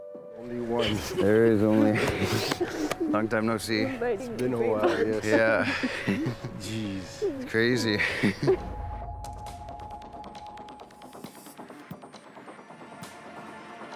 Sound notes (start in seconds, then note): 7.6 chuckles; 8.5 dramatic music playing